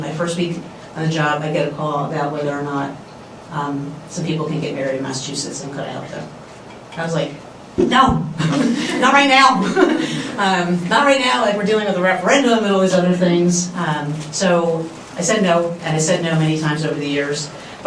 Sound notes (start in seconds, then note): 9.5 laughs; 9.6 laughter